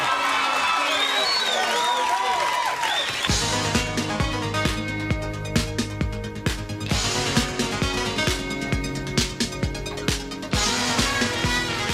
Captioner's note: crowd chatter